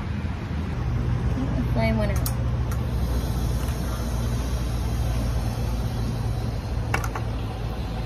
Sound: gas lighter clicks, hissing intensifies

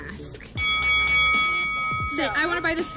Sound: bell dinging

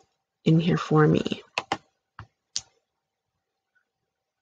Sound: click; click

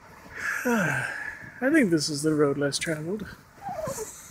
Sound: sigh; laughs

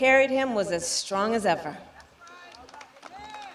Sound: applause

